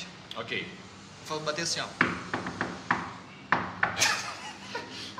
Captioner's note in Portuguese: barulho de toc toc na porta